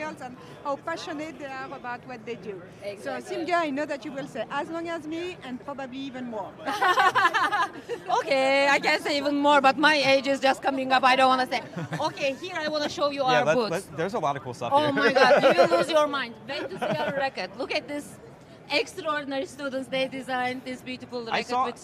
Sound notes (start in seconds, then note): 6.7 laughs